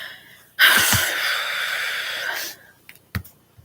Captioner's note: really big sigh